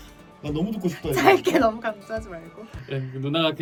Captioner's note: giggles